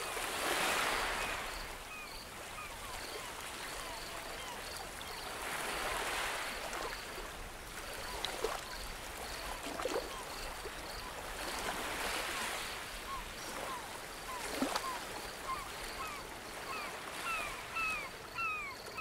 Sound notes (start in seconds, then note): 2.1 birds chirping; 13.9 light ocean ambience